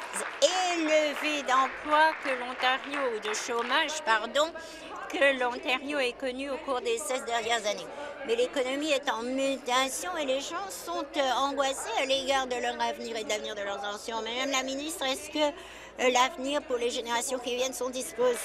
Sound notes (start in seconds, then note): 5.5 applause